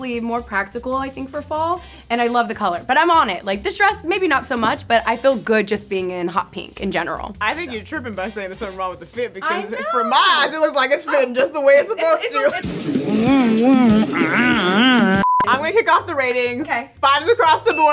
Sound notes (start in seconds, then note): 12.6 silly sounds